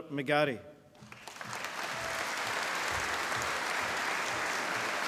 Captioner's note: applause